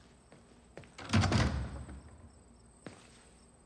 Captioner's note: door shuts